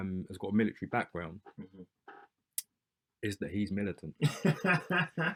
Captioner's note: laughter